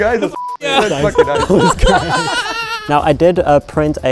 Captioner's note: everyone laughing